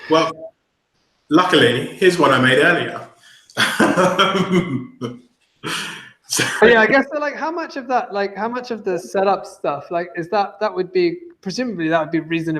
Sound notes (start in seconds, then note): 3.6 laughing